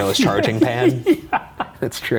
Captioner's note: laughs